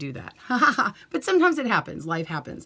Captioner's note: laughs